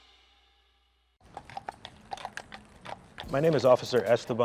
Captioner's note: hooves clopping